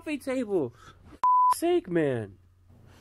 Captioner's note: beeps